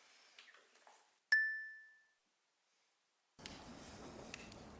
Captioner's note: bell dings